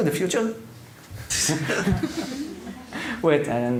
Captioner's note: laughter